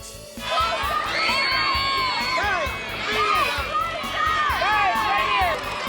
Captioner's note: crowd shouting